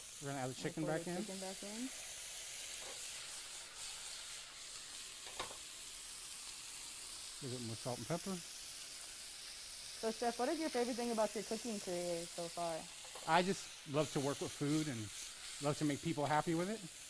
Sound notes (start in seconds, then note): 1.6 sizzles loudly